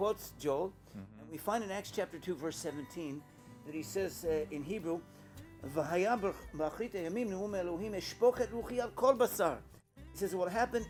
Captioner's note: Hebrew